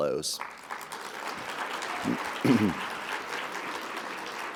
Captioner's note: audience applauding